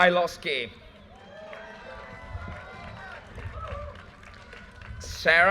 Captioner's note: audience cheers and applause